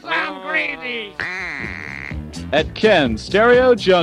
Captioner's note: duck quacks